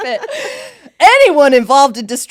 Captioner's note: both laughing